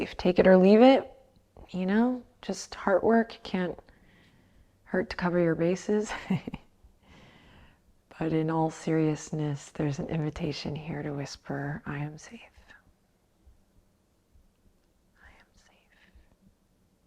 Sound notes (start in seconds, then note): 6.1 chuckles